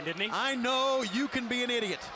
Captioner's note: crowd chatter